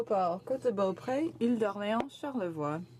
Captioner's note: speaking French